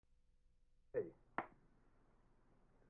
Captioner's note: clap